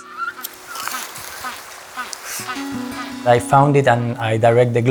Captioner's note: penguins braying